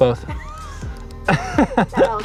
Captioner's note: both laugh